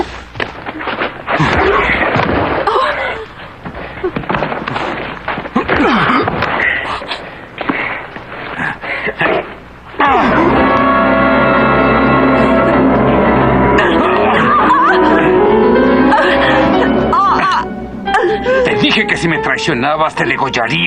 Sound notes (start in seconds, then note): 13.8 Beatrice shouts in pain